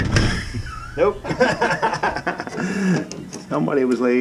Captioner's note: laughs